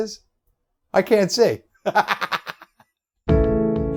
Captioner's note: laughs